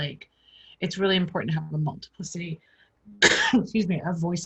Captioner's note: coughing